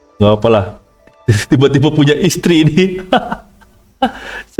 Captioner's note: laughs